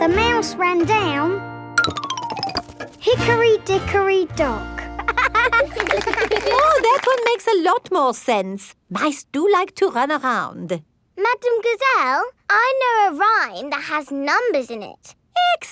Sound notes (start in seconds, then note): 4.9 laughing